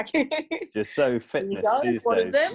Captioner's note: laughs